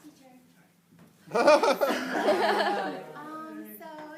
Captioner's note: laughter